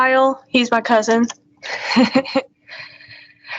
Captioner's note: laughs